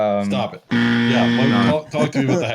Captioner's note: buzzer sounds